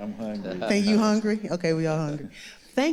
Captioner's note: audience laughing